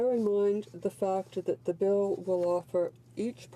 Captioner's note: speaking French